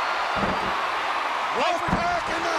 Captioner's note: crowd cheering